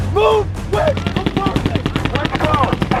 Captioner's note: weapons firing